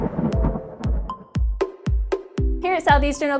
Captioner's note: thunder sound; upbeat music